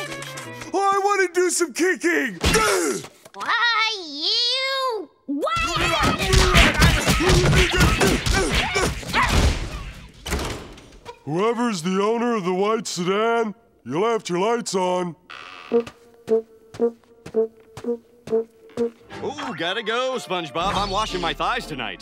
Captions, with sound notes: Well, I want to do some kicking! Why you. Why I oughta- Whoever is the owner of the white sedan, you left your lights on. [tooting] Oh, gotta go, SpongeBob. I'm washing my thighs tonight.